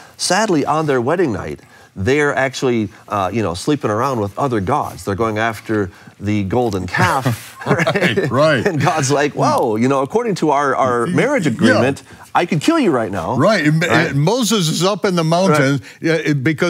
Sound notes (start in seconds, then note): 7.2 both laugh